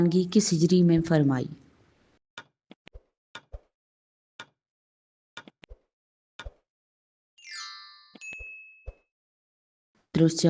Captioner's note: timer running